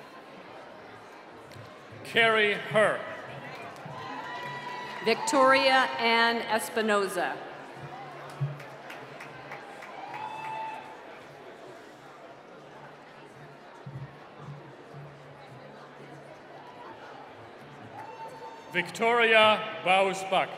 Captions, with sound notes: - Carry Her. (applause) - Victoria Ann Espinoza. (applause) - Victoria Bozhbuk.